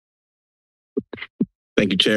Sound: silence; mic rustling

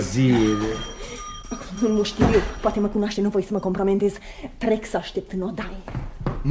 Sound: there's a knock at the door

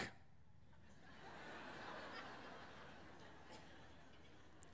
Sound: audience laughing

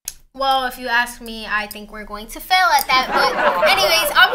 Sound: audience laughter

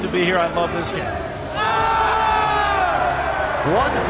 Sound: players yelling

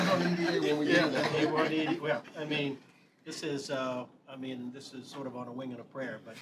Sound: laughter

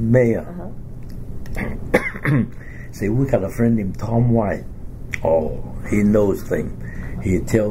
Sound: coughs

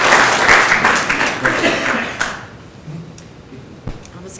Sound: applause

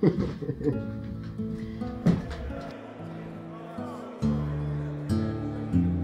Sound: prison inmate chatter

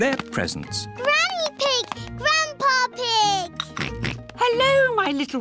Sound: oinks

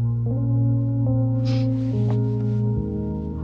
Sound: sniffles

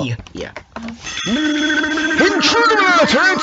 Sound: alarm noises

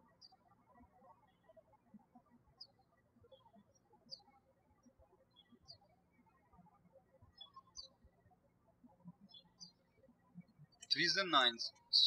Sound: birds chirping

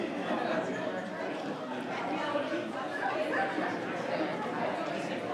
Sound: people continue chattering

